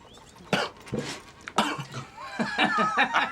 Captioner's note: Dick coughs; Shinar and Mr.Day laugh